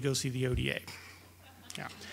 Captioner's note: laughter